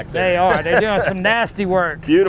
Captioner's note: laughs